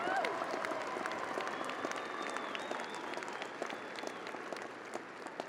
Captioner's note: audience applauding